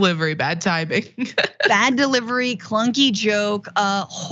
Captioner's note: laugh